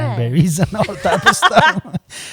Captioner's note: laughter